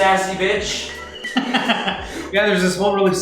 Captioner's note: laughs